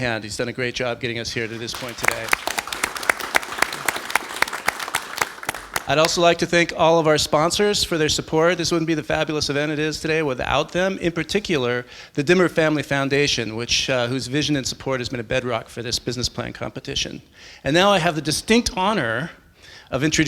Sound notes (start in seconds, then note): 1.4 applause